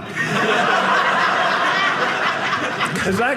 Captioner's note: audience laughing